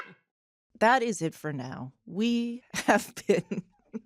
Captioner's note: chuckles